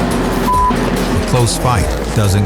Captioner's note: beep